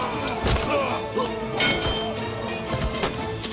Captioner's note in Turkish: Kılıç sesleri